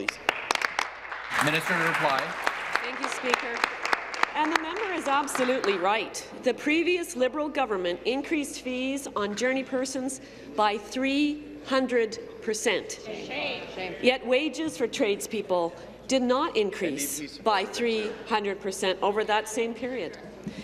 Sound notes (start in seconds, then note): 3.2 applause